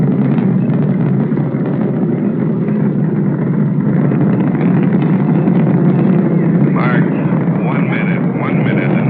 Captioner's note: sounds of rocket engine